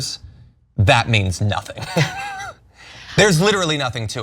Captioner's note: laugh